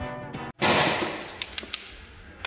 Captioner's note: splat